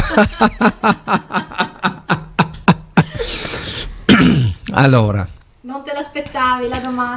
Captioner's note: laughs